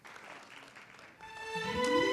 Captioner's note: applause